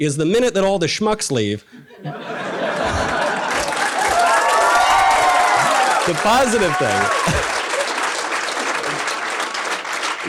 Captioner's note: audience laughter and cheers